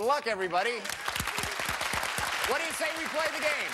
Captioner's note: cheers and applause